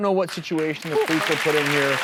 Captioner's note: applause